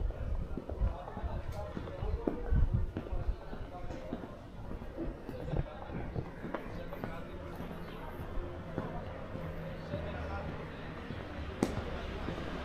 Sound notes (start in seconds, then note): 0.0 people chattering